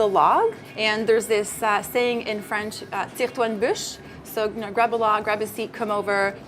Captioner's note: french